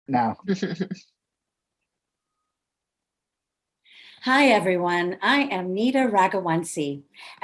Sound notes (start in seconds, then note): 0.8 laughs